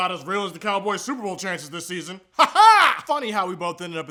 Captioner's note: weird laughing